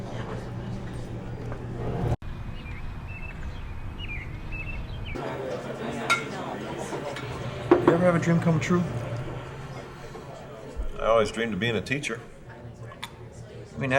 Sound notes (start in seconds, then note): none